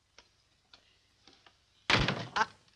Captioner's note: door slams